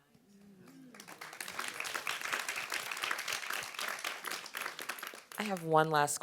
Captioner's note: audience applauds